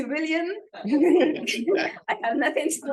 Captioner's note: laughter